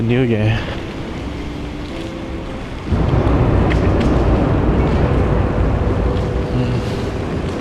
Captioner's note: wind Blowing